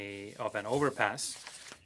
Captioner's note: speaking French